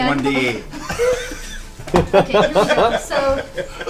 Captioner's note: all laugh